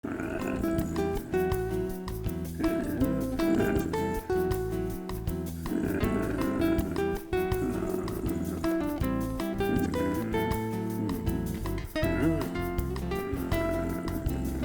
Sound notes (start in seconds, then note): 0.1 growling; 0.1 upbeat calm music